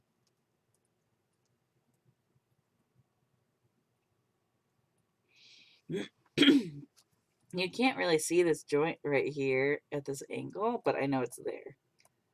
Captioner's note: clears throat